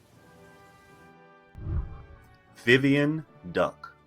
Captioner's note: whooshing